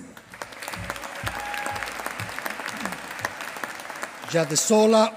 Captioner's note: applause